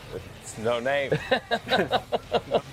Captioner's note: upbeat music; laughing